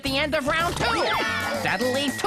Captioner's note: contestants exclaim